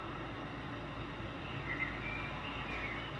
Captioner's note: birds chirping